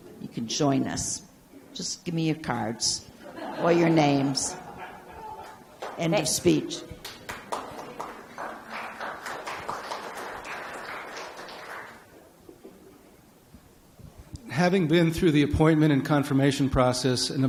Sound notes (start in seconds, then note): 3.2 audience laughs; 6.8 a few audience members clap